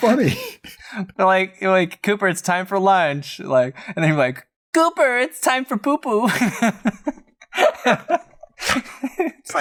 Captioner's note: laughter